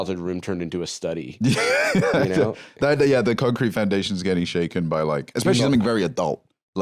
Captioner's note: laughs